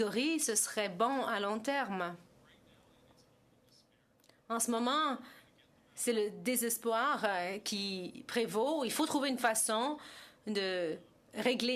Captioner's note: speaking French